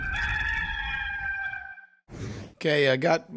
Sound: cock crows

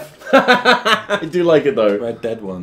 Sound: laughing

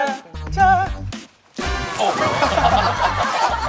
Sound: splash

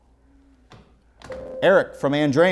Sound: beeping

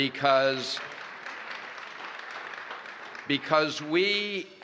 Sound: applause

